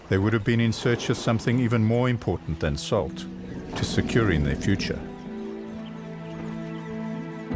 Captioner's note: animals calling